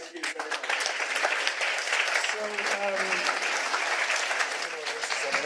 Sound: audience clapping

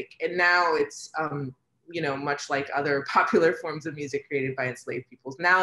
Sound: none

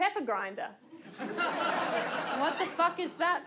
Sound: audience laughs

